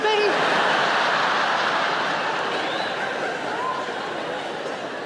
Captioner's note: audience laughing loudly